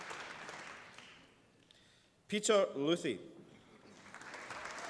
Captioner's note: applause